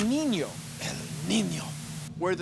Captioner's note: Spanish accent